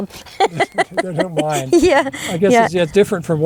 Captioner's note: both laugh